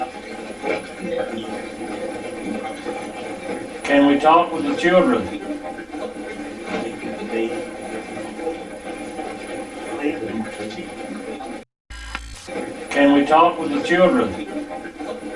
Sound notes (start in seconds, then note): 5.7 static playback transmitting; 12.3 static fizzing; 15.2 static playback transmitting